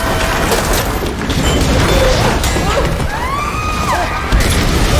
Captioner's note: grunts, screams